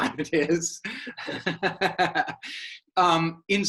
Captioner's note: both laughing